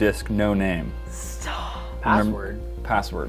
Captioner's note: whispering